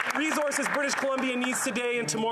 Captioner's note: applause